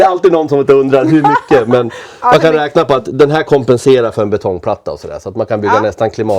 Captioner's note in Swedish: skratt